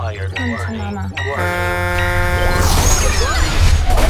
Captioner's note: spaceship horn honking